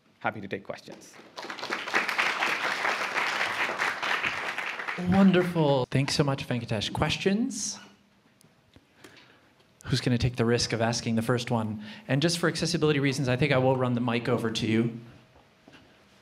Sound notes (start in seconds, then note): 0.9 applause